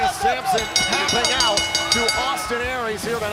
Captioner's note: bell ringing